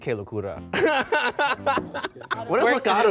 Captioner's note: laughs